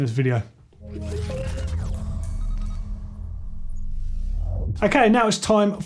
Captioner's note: futuristic sounds